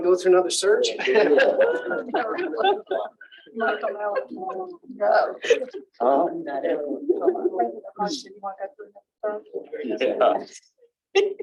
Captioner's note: laughter